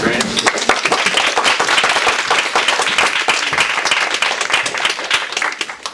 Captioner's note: audience applause